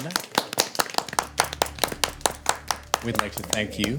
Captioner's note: applauding